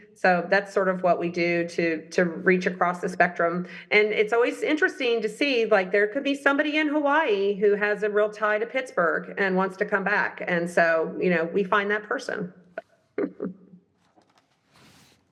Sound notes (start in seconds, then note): 13.2 laughs